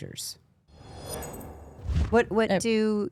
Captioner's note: air whooshing